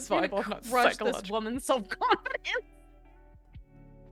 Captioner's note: laughing